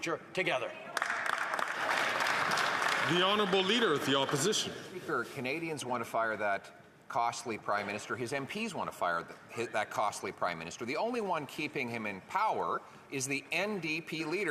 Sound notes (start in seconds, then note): 5.0 some Applause